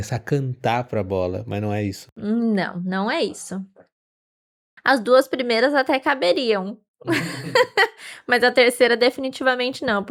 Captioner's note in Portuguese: risadas